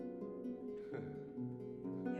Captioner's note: chuckles